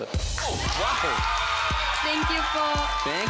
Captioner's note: cheering